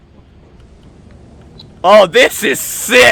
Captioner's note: intimidating Storm Noises